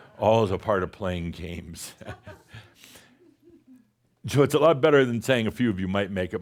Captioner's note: chuckles